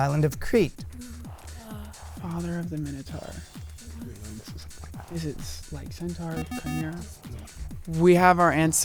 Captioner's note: wispering